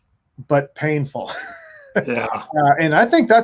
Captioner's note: chuckles